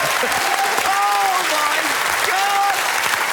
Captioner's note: applause